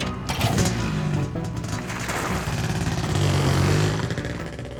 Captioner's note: motorcycle rumbles